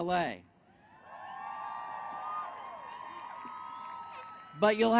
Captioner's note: cheering